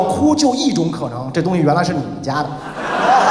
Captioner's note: laughed